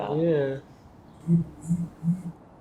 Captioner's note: phone vibrating